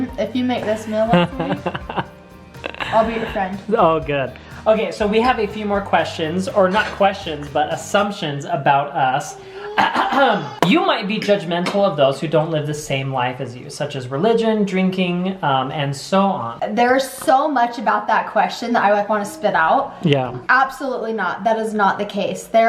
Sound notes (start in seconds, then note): 9.7 clears throat